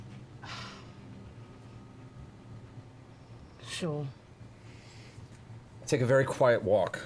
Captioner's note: sighs